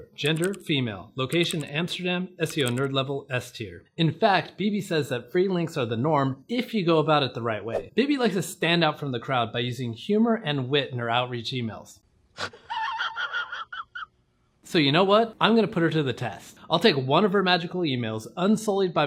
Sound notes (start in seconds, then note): 12.4 laughing